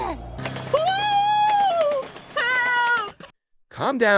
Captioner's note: screaming